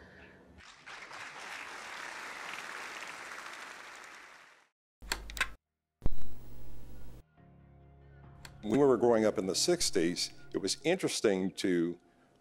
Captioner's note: applause